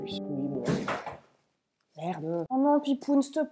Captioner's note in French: bruit de truc qui tombe dans le fond